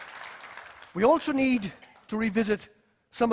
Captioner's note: applause